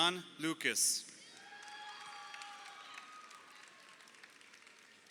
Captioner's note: crowd cheering